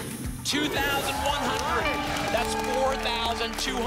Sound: applause and cheering cont

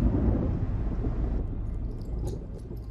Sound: rumbling of thunder

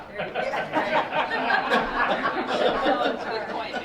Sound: laughing

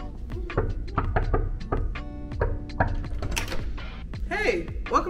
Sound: relaxing music continues; hand knocking

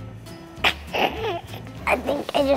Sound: girl coughs

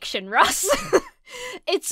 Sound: laughs

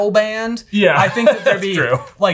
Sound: laughs

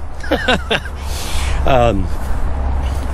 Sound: laughing

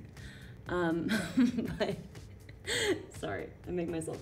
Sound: giggling

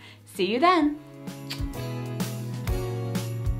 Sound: lips smacking; happy music

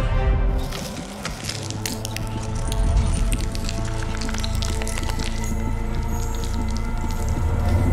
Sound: branches creaking and crackling

